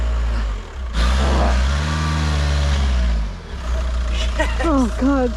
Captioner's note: engine revving